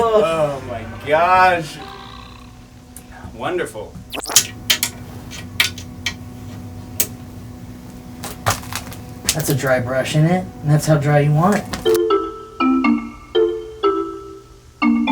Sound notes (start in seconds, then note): 4.8 tapping easel; 12.0 marimba music